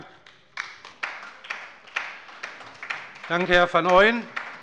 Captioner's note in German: Beifall bei der LINKEN und bei Abgeordneten der SPD